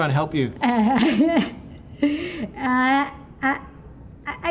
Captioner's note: laughs